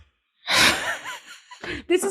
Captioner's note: laughs